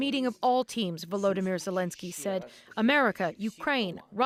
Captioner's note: speaking alternate language